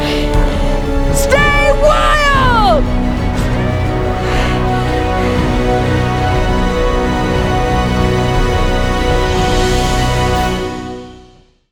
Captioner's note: echo returns